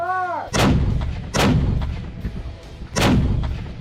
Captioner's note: cannon fires